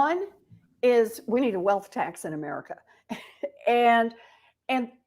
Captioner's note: chuckle